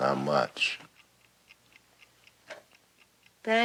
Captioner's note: clock ticking